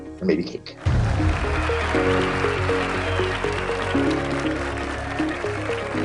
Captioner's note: cheering